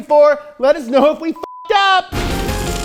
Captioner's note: beep; fun electronic music